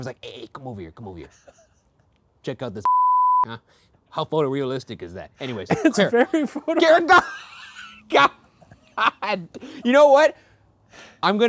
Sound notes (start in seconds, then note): 2.8 beeping; 5.4 laughing